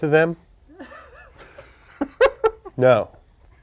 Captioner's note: laughter